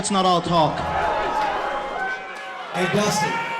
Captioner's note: crowd yelling